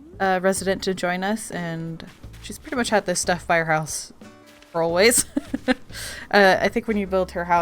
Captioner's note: laughs